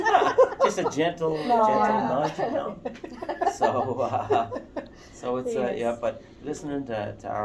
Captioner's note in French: Rires